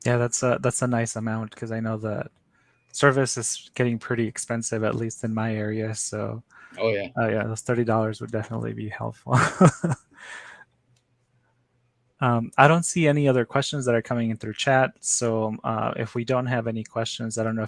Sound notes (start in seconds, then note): 9.2 chuckles